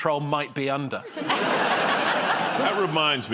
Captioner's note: laughter